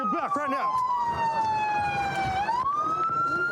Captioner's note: sirens blaring